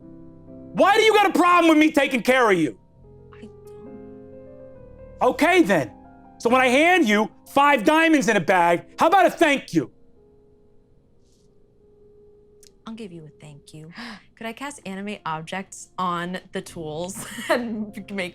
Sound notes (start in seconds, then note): 14.0 gasps